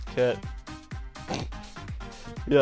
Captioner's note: snorts